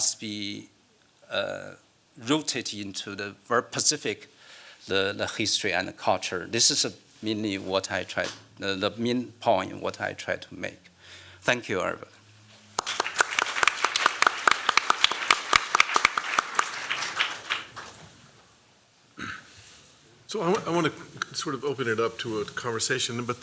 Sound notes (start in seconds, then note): 12.7 applause